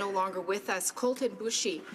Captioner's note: speaking alternate language